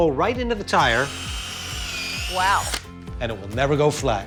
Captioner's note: drilling